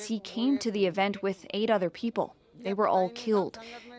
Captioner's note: speaking alternate language